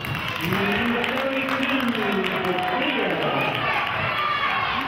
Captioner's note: clapping